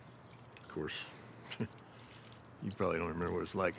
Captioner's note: scoffs